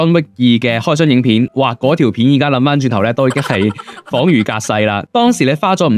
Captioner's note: laughs